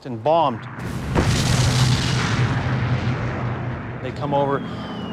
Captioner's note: bomb explodes